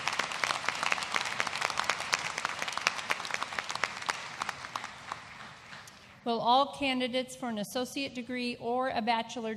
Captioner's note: applause